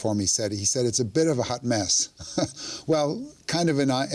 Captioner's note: chuckles